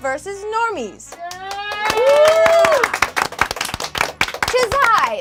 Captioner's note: group cheers